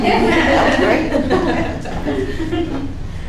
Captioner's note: participants giggling